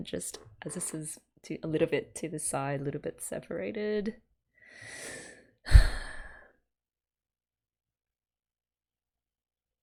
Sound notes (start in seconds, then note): 5.6 sighs